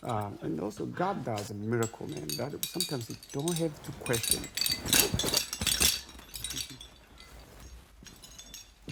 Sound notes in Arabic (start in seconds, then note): 4.7 رنين الميداليات